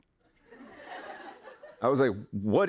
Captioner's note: laughter